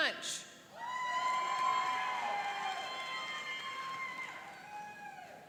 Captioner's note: cheering and applauding